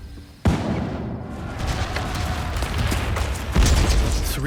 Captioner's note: explosions; rocket booms